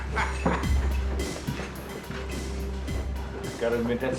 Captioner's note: Justice laughing